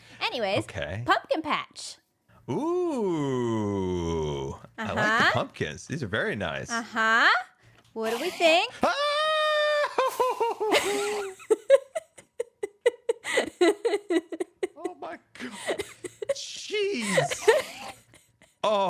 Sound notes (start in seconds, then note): 11.4 laughs